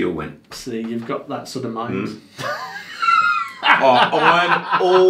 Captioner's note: laughs